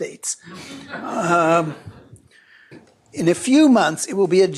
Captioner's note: laughter